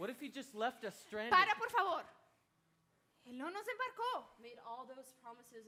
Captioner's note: speaking Spanish